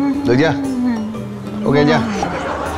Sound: one more yawn

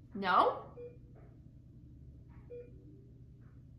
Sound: beeping

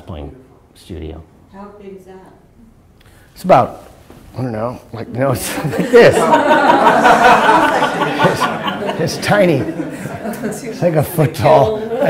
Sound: laughter

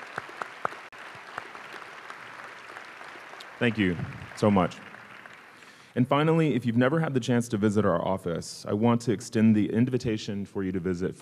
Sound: applause

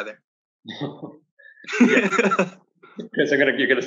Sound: laughs

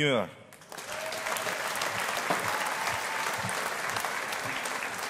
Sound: audience applauding

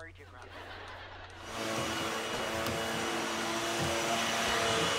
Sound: vacuum blaring

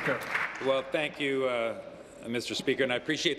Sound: applause

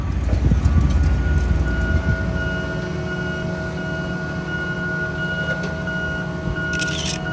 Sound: sound of construction workers and crane moving a girder

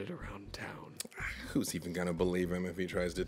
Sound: scoffs

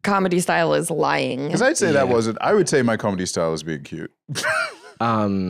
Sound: laughs

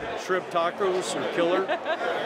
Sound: laughter

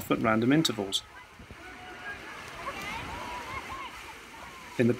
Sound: sounds of water and children playing continues

